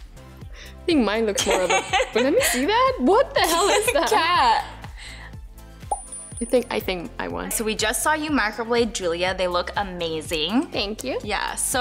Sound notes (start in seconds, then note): 3.4 laughter